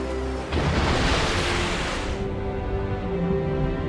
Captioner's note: splashing water